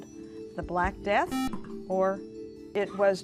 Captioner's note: buzzer